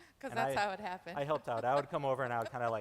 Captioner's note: laughs